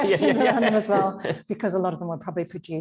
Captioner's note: both laughing